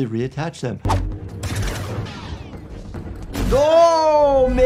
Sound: lightsabers droning, crashing

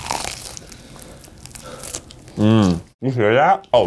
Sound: chicken skin crunches

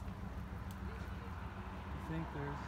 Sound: passing car

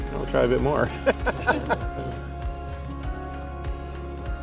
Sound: laughs

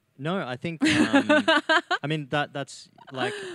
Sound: laughs

